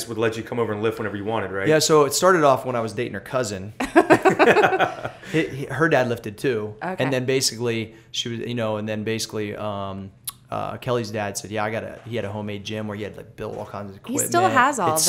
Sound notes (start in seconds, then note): 3.8 laughter